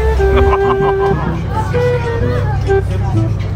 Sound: background music; laugh; background music

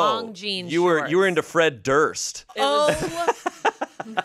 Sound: laughs

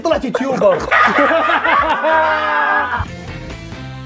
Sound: everyone laughs

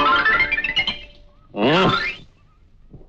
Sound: grunts

